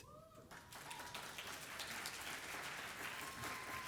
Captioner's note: audience applauding